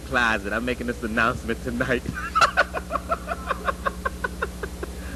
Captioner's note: laughter